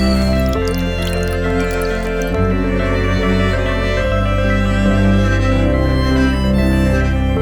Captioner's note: coffee pot whistling; instrumental music; dripping; instrumental music